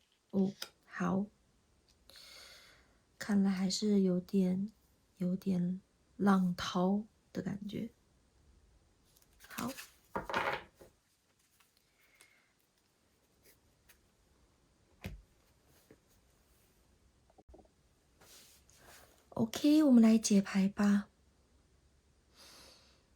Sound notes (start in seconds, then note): 11.1 drawing cards